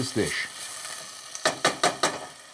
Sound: spoon banging

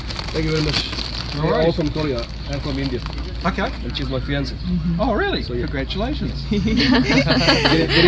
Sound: laugh

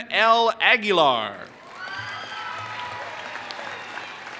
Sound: applause

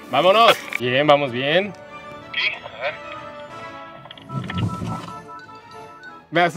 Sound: alarm beeping; voice on radio

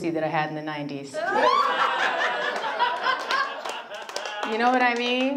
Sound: audience laughs

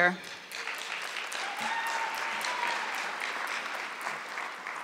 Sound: audience clapping

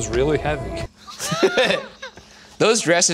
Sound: laughing

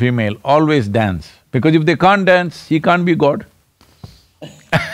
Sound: laughter

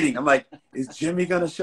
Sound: laughing

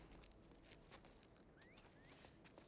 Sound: whistle

